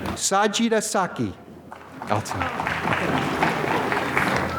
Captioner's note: applause